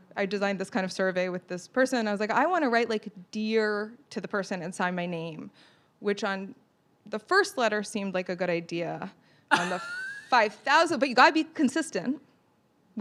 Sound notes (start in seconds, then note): 9.5 laughs